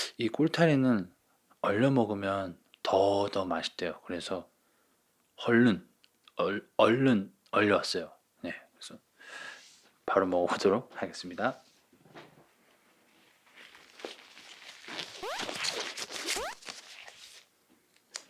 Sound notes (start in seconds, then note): 15.1 here's the sound of gloves